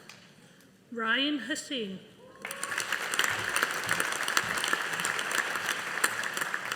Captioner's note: audience applauding